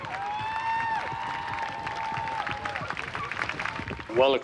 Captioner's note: crowd cheering